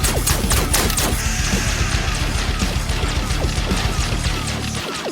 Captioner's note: scorpion hisses